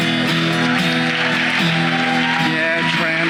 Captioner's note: audience cheering and clapping